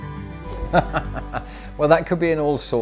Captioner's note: laughing